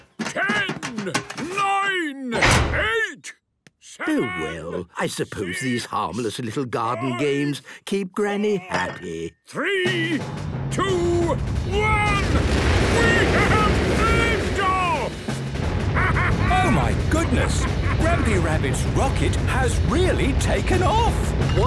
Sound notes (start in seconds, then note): 12.2 rockets igniting